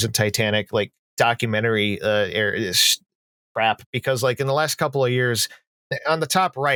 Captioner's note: stammers